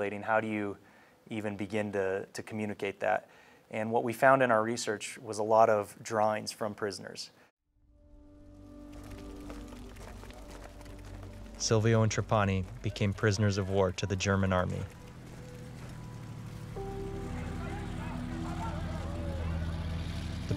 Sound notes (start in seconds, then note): 8.8 feet marching; 17.2 people yelling; 17.3 engines whirring